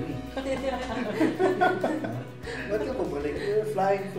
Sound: laughs

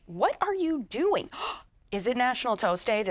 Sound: gasping

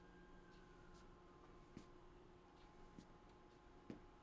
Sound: sirens blaring

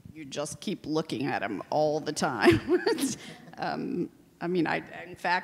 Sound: laughs

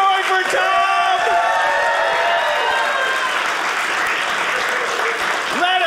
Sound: audience cheering

